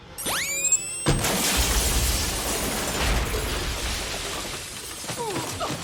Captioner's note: high-pitched buzzing; glass shattering